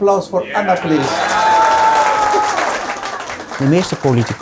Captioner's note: applause